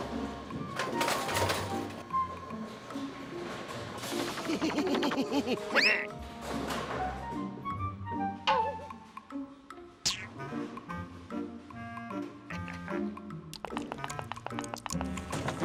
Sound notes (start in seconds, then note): 4.2 chuckles deviously; 12.5 chuckles